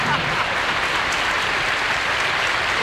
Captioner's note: applause